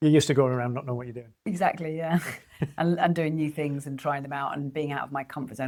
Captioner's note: laughs